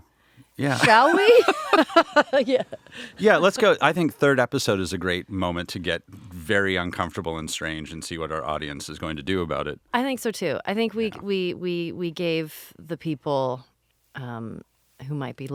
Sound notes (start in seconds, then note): 0.6 laughing